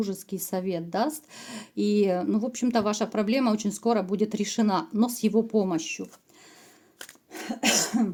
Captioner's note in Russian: кашель